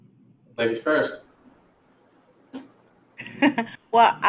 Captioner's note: laughing